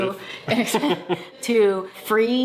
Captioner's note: laugh